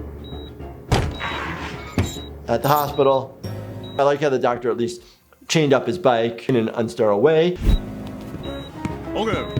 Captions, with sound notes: (tires screech) At the hospital, I like how the doctor at least chained up his bike in an unsterile away.